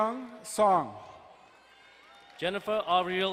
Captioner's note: distant cheering